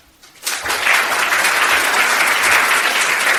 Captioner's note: applause